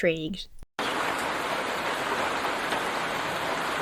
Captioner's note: rain pattering